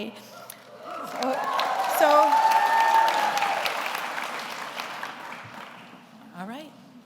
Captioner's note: audience applauds; audience cheers